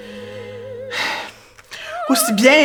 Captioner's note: sigh